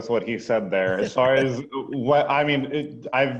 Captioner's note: laughing